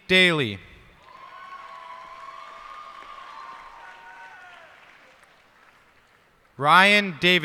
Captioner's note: cheers and applause